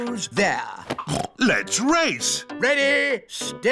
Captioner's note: snorts